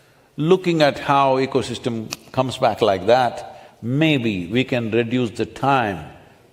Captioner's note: gestures with finger snap